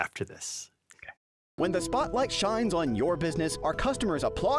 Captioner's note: voiceover